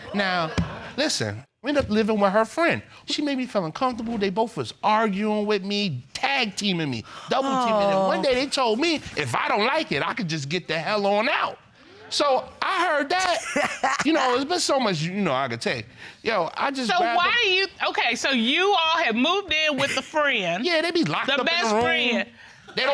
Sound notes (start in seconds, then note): 13.2 laughs